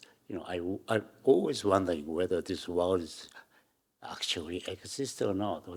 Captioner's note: none